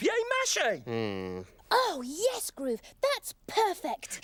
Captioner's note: groans